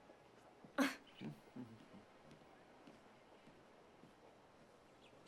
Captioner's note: Jessica chuckles